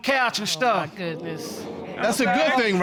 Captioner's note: audience exclaiming